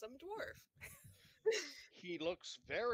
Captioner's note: giggles